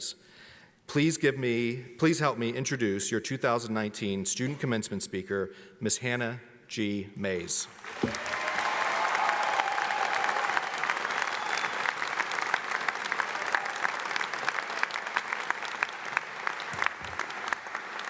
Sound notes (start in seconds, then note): 7.8 audience applauds; 7.8 audience cheers